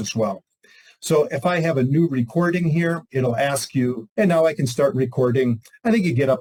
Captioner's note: computer reading in background